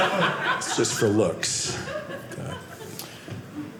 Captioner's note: audience laughing